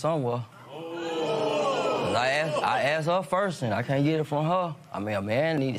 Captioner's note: audience "Ohh"s